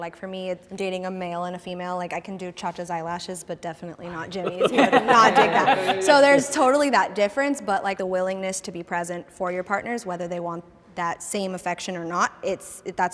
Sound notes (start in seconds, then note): 6.2 participants laughing